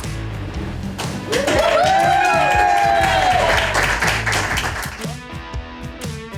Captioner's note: crowd applause